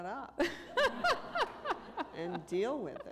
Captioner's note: laughter